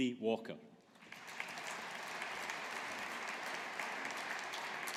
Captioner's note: audience applauding